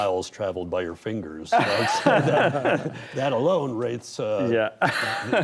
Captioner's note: all laugh